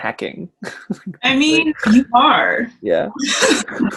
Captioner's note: laughs